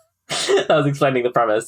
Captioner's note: laughs